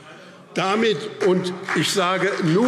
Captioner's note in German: Beifall BÜNDNIS 90/DIE GRÜNEN und CDU